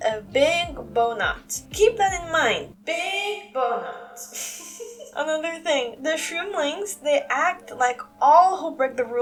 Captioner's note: chuckle